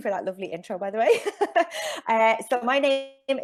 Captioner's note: chuckles